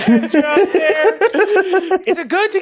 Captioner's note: laughter